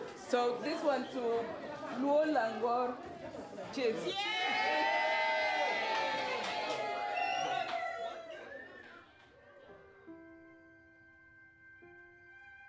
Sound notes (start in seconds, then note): 5.7 cheering; 9.8 soft music